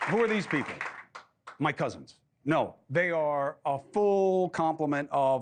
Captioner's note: applause